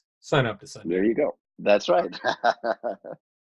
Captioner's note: laughs